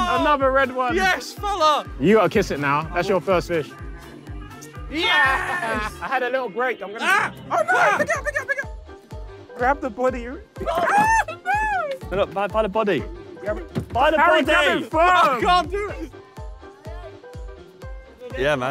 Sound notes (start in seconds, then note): 4.6 lips smack; 16.3 upbeat music